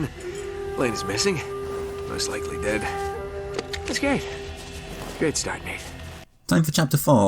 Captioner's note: in-game audio